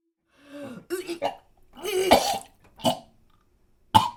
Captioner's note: Anne vomiting